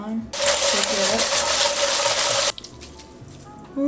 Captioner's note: wantons shaking up